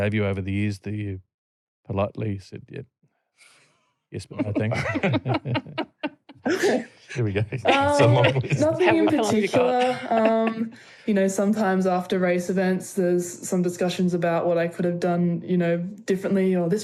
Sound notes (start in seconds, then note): 4.2 laughter; 8.0 laughing